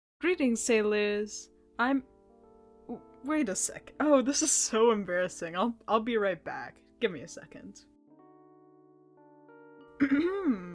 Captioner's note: cough Cough